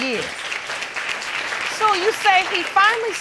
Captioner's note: applause